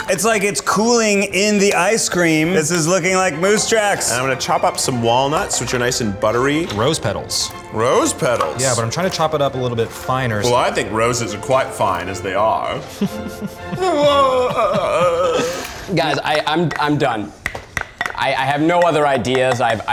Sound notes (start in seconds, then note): 12.6 laughing dramatically